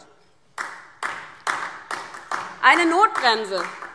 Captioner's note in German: Beifall DIE LINKE